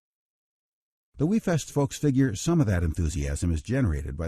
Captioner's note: voiceover